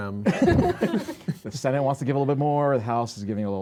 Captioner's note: laughter